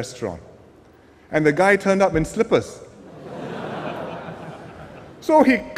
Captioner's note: laughter